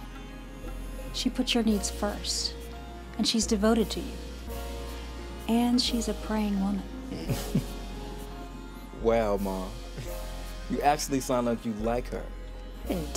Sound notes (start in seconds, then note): 7.3 laughter